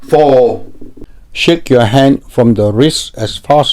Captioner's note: voiceover